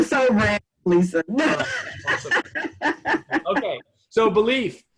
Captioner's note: laughter